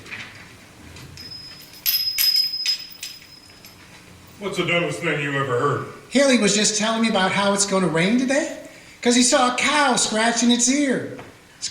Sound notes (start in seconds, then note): 1.2 bells tinkling